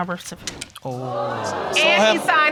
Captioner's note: audience exclaiming